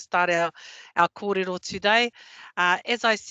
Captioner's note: non-english